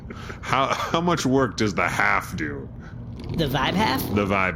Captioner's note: stifled laughter